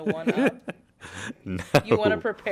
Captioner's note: laughter